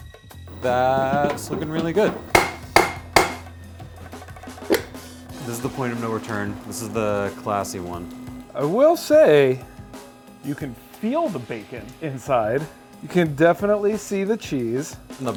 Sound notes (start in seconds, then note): 2.7 hammering